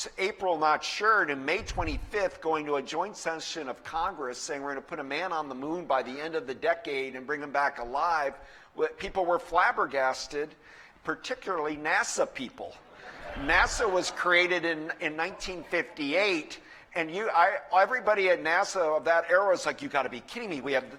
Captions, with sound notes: April, not sure. And on May 25 going to a joint session of Congress, saying, we're going to put a man on the moon by the end of the decade and bring him back alive. People were flabbergasted, particularly NASA people. [LAUGHTER] NASA was created in 1958. And everybody at NASA of that era was like, you got to be kidding me.